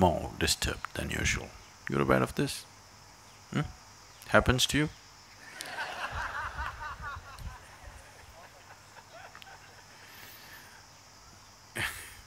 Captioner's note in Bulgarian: Смях